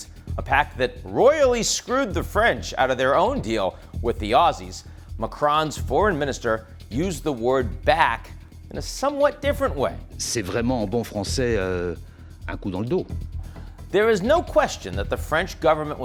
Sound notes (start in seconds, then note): 10.3 speaking in foreign language